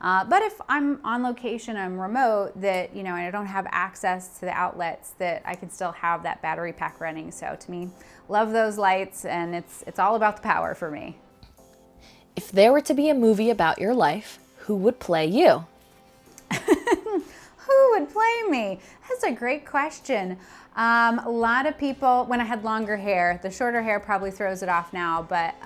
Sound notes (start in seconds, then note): 16.4 laughs